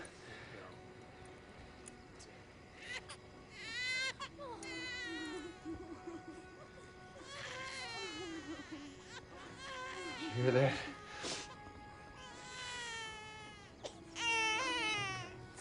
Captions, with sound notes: YOU'RE DOING GREAT. I GUESS SO. [baby crying] YOU HEAR THAT?